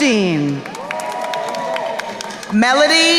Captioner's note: crowd cheering and applauding